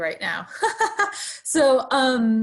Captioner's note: laughs